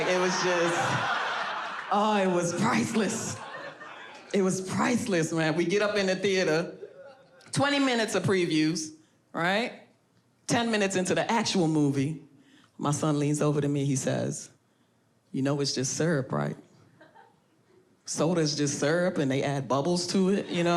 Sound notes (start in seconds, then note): 1.6 audience laughs